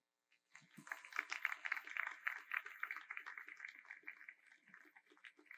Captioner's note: audience applauds